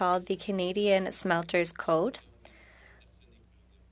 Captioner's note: speaking French